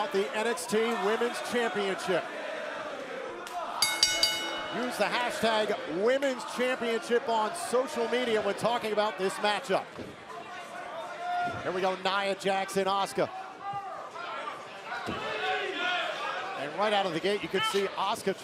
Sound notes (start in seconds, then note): 2.1 crowd cheering; 3.8 bell ringing; 10.8 crowd chatter; 14.4 crowd chatter